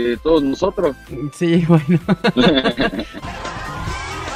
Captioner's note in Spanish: risas